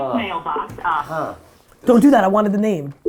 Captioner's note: groans; automated Voice